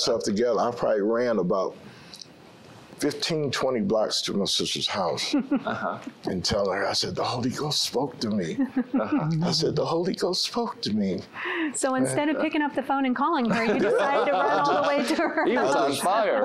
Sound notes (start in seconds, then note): 8.4 giggling; 13.4 laughter